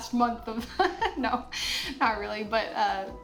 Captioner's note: woman laughing